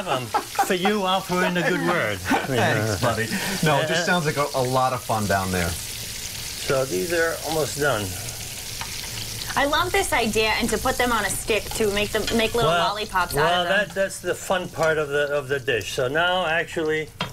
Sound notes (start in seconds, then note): 12.8 sizzling